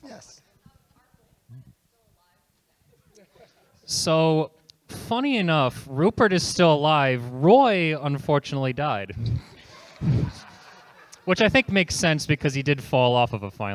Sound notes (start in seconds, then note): 9.0 chuckles; 9.4 audience laughter